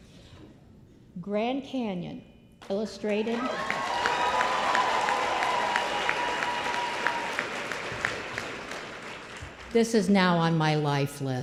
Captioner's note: applause